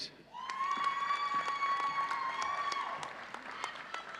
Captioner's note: audience cheering